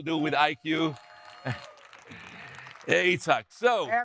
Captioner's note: audience applauding